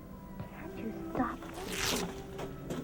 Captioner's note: fabric rips